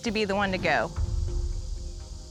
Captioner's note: none